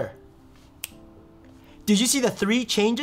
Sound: snapping fingers

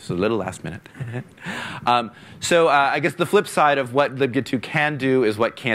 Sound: laughing

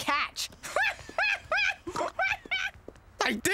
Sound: raucous laughter and snorting

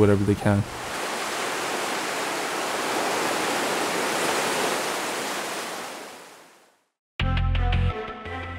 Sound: waves crashing on shore

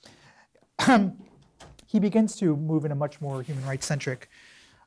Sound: coughs

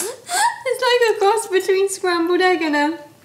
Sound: laughs

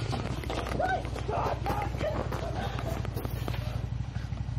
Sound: incoherent shouts

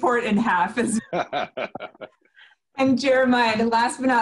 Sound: laughing

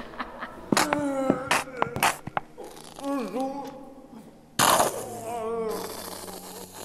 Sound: laughs; groaning; ketchup squirting

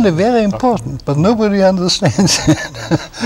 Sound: laughter

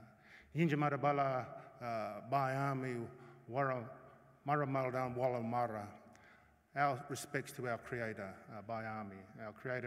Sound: non-english speech

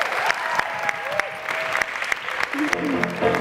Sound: cheering; piano plays

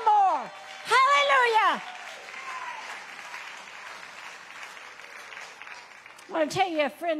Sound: congregation applauds

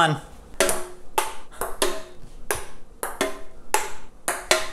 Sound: ping pong buckles

